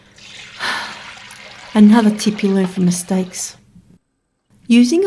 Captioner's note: sigh